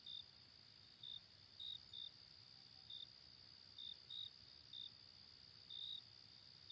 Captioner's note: none